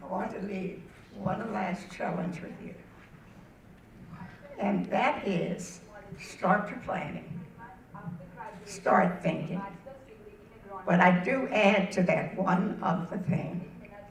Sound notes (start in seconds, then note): none